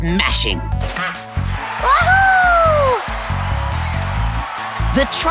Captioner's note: cheering